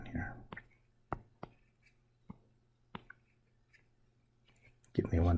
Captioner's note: writing Sounds